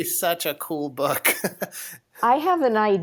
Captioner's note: chuckles